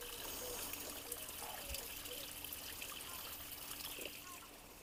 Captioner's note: rushing water